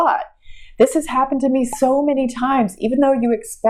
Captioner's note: pop